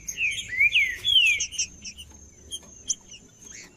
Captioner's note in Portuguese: trinca ferro cantando